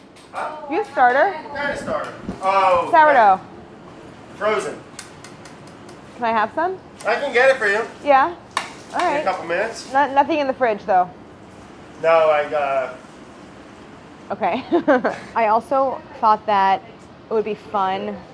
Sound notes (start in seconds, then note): 14.4 laughs